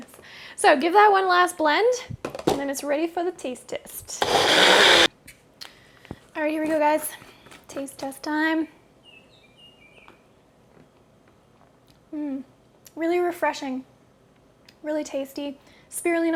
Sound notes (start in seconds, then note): 4.2 blender sound